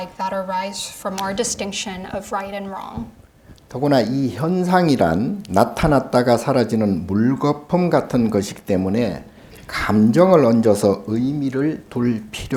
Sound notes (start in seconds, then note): 4.0 speaking Korean